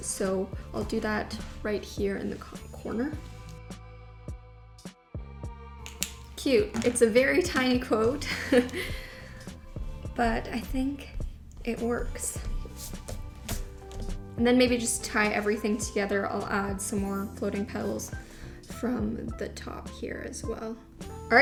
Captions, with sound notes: So, I'll do that right here in the corner. (bouncy music) (pen clicking) Cute, it's a very tiny quote (laughs), but I think it works. And then maybe just tie everything together. I'll add some more floating petals from the top here as well.